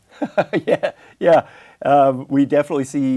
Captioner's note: laughs